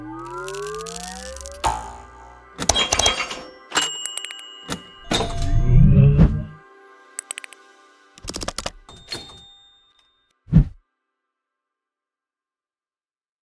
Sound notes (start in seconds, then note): 1.3 spring sound; 2.6 pinball arcade sound